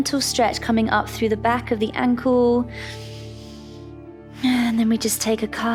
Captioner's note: inhales